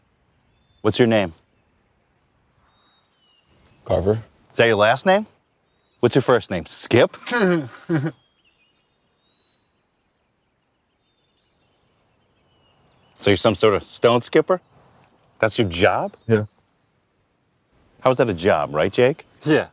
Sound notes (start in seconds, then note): 7.1 man laughs